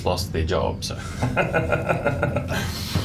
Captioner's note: laughs